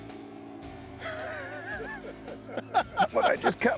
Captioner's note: everyone laughing